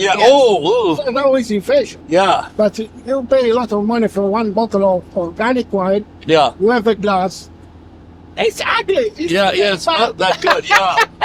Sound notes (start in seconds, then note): 10.2 laughs